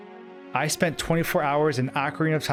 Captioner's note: Link shouting